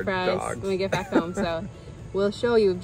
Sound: laughs

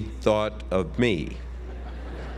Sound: laugh

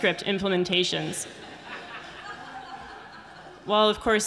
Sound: audience laughing

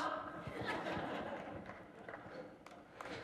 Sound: laughter

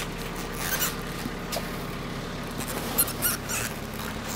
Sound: squeaking

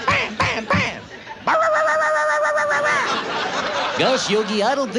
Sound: yammering like a dog

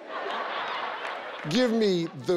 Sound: audience laughs

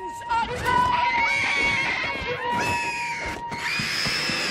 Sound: Griffins screaming; screaming

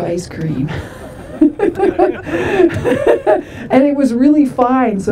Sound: laughter

